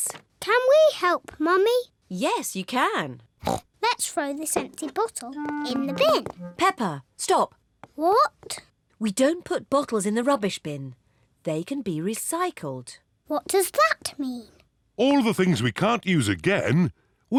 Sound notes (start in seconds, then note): 3.4 snorts